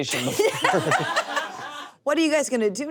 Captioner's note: everyone laughs